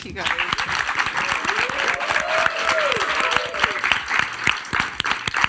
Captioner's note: audience applauds and cheers